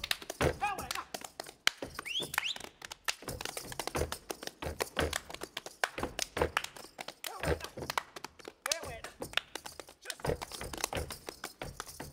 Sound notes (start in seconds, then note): 1.8 whistling; 3.5 feet stomping and hands clapping